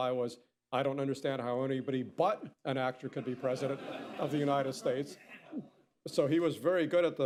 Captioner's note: laughter